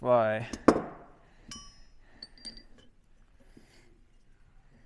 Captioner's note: metal clanking